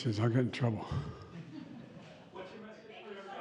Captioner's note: laughter